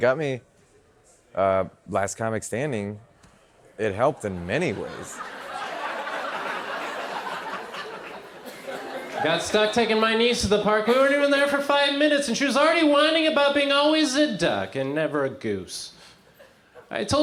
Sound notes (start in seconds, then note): 4.0 crowd laughs